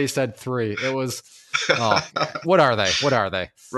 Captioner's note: laughs